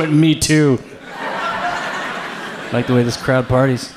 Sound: audience laughs

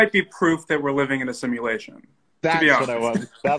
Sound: laughs

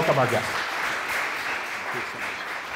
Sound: applause

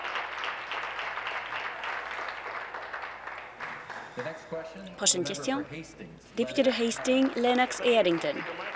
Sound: applause

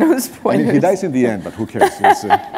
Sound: chuckle

